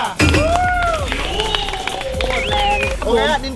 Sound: applauding

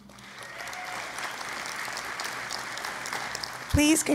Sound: applause and Cheering

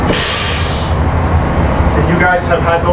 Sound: machinery sputters

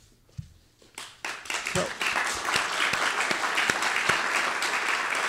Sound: audience applauds

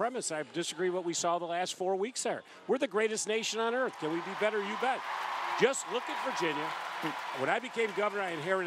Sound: applause

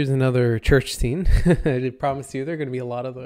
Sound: chuckles

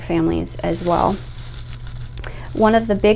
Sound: air whooshing

